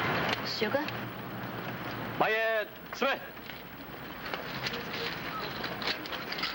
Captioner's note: speaking foreign language